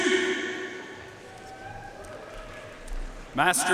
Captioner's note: audience cheering and applauding